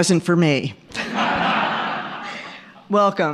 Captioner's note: audience laughing